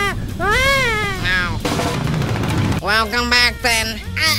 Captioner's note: recovery noise plays